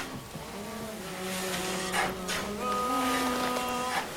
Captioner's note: humming